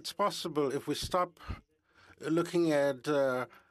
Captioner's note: speaking French